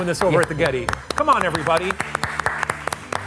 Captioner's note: both applauding